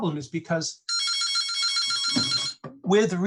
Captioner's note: phone ringing